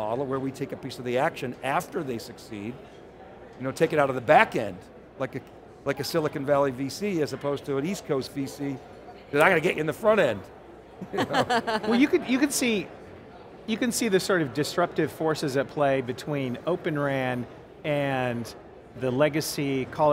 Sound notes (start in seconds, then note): 11.0 laughs